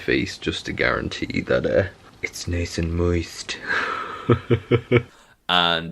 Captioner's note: laughs